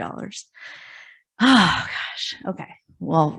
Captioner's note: sighs